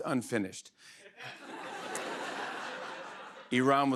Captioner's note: laughter